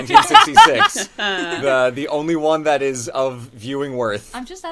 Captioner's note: laughs